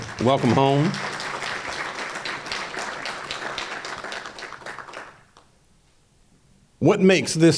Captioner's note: applause